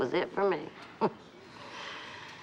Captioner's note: chuckles